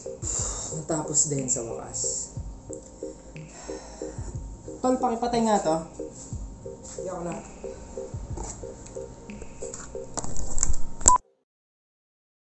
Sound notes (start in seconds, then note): 3.5 sigh